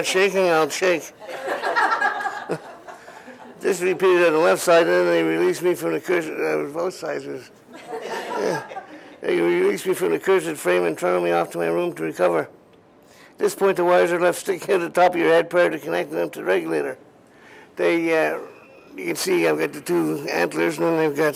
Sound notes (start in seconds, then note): 1.2 laughter